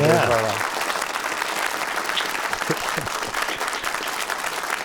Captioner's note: audience applauding